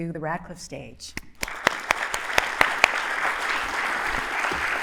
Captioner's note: applause